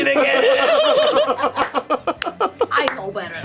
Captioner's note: laughter